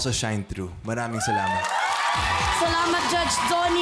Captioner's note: applause